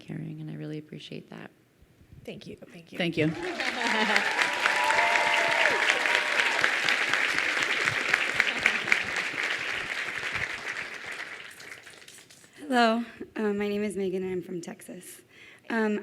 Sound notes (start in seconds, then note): 3.2 crowd cheering and applauding